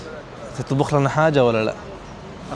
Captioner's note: Arabic